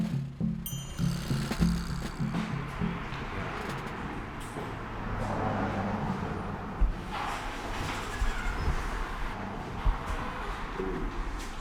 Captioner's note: cars driving